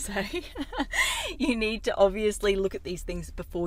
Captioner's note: laughs